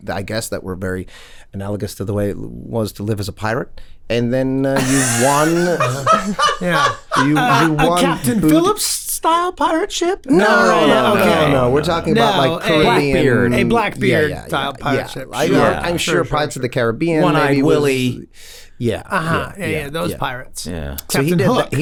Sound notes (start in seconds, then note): 4.8 Charlie laughs